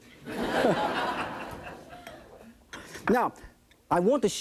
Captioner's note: audience laughing